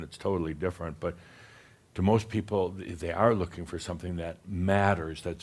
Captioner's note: none